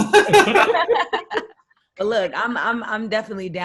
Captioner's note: all loudly laughing